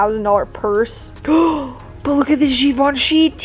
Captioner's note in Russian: Вздох